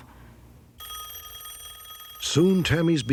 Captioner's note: phone ringing